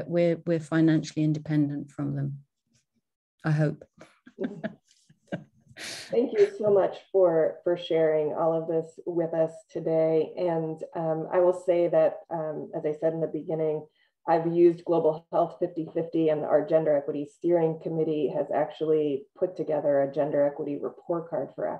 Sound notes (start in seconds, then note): 4.3 laughs